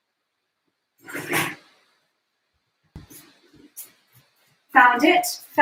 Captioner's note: indistinct clattering